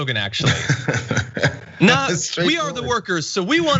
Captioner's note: laugh